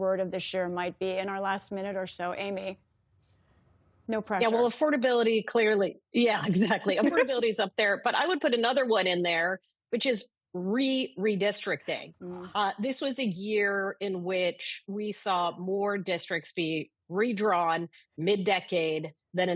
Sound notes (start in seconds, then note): 6.3 laughter